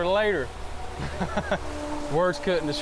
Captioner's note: laughing